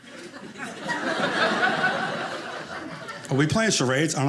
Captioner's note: audience laughing